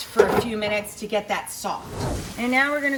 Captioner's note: air whooshing